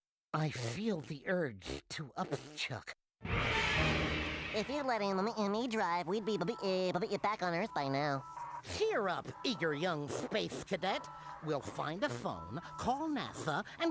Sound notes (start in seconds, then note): 4.5 stuttering